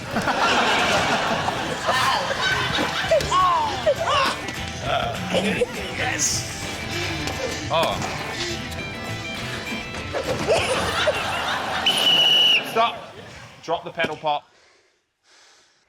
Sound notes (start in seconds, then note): 0.0 laughter; 0.6 all exclaim; 10.2 laughter; 11.8 whistle trills